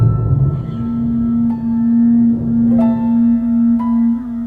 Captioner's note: somber music; horn blowing